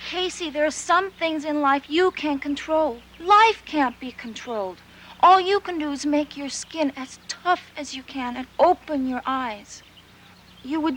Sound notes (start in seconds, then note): none